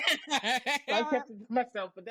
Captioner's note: laughing